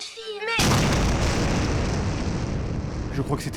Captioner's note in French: explosion